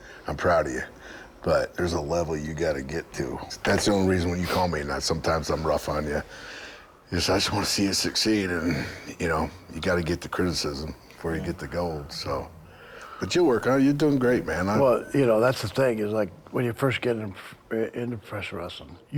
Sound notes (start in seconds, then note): none